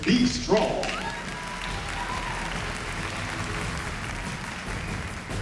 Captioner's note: applause